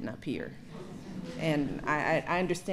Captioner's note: laughter